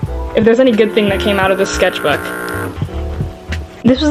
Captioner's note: stinky fog horn